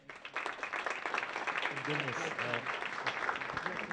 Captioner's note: audience applauds